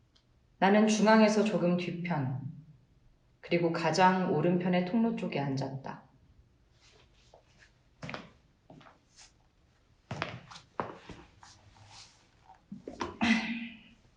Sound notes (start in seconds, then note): 8.0 walking Sound; 11.9 rustling Sound; 13.1 sigh